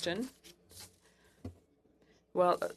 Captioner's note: speaking French